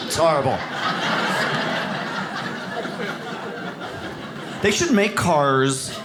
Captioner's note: audience laughs